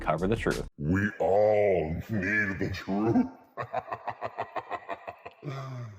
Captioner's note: laughs maniacally